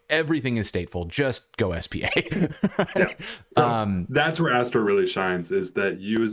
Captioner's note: laughter